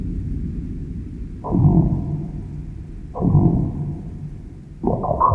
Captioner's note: computer chiming